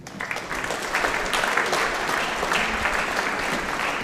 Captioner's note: audience applauding